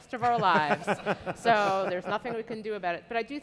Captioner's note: audience laughing